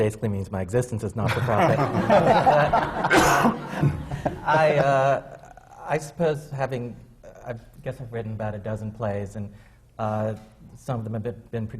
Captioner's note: laughter